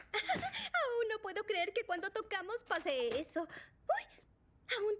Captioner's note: giggle